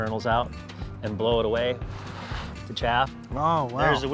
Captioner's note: blowing